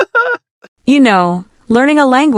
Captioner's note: laughs